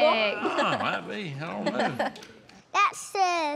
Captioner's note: laughter